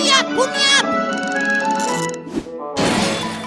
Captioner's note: crash!